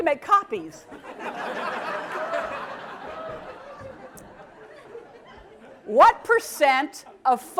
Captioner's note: laugh